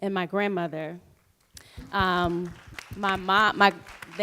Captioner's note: applause